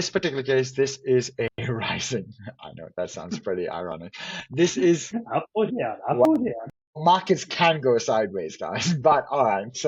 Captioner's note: laughs... Up or down... Up or down